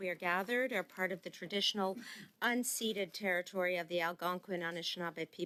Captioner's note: speaking French